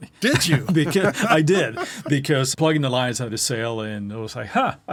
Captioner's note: laughs